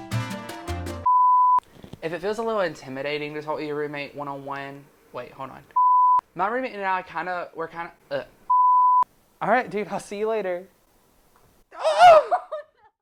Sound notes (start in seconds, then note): 11.7 screams